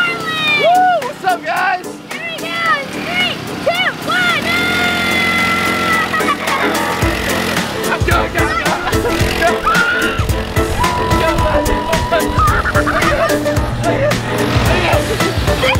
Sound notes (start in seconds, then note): 8.8 motorcycle drowns out voice; 9.6 screaming; 11.3 engine revving; 13.0 laughing